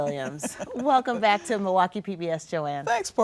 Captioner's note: chuckles